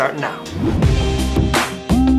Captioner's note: gentle music; upbeat music; graphics whoosh